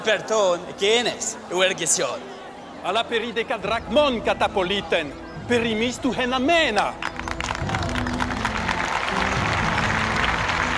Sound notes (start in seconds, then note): 0.1 Athenian speaking in foreign language; 2.9 audience member speaking in foreign language; 6.9 crowd applauding and cheering